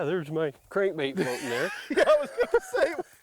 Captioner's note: laughs